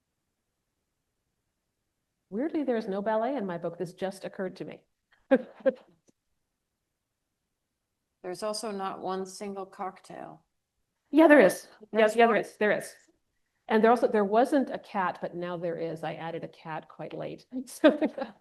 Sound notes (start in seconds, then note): 5.3 laughs